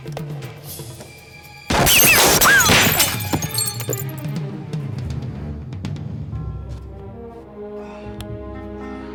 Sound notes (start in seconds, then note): 1.7 glass shatters; 2.7 gun fires